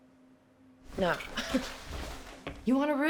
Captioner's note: scoffs